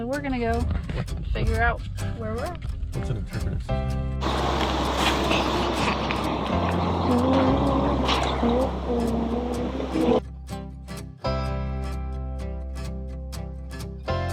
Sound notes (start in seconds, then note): 7.4 humming; 10.9 upbeat guitar music